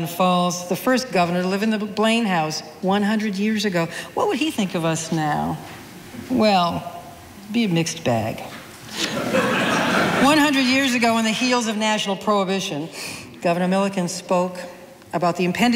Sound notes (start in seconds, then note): 8.9 audience laughing